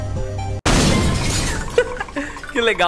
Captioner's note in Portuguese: Risos